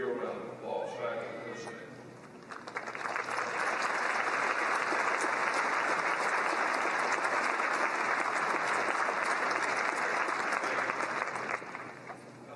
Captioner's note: applause